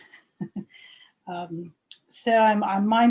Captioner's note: chuckles